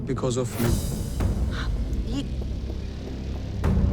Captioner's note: Moushumi exhales